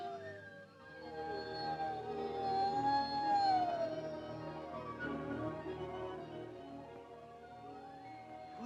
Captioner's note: wolves howling